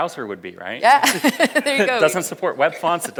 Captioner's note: audience laughs